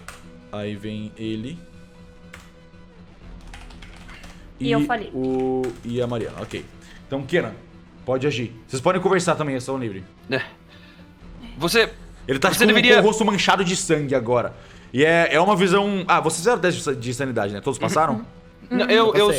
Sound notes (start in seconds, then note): none